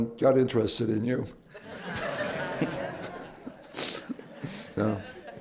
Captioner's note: laughter